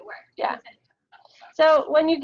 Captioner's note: audio drops